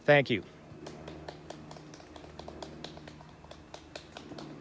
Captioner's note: hands clap